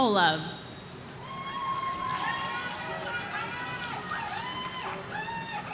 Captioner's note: audience cheering